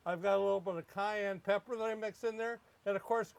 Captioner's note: none